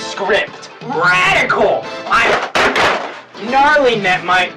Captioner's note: equipment crashing